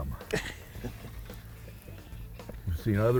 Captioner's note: chuckling